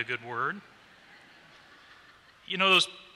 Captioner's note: laughter